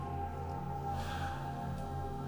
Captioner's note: gasps